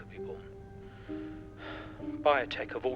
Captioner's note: George sighs